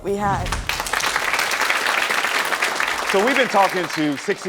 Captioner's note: audience applauds